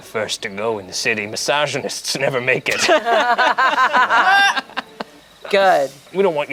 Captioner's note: group laughs